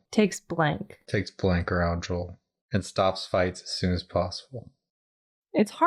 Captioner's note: none